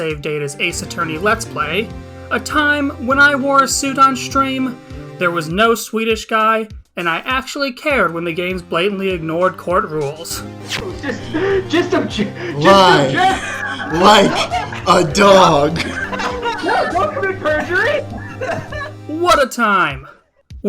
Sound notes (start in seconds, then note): 15.2 laughing in the bg